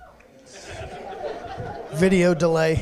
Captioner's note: laughter